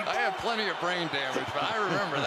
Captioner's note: laughs